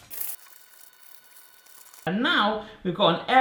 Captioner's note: paper cutting